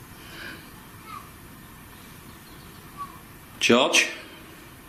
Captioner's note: child chattering